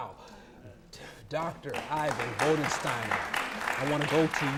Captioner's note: audience applauding